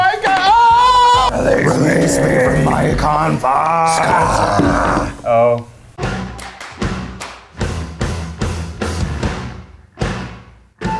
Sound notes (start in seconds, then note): 0.5 screams; 4.2 shouting; 6.3 upbeat music